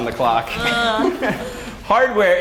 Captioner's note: laugh